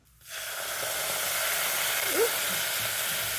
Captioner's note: loud sizzle